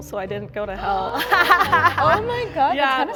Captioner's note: laughs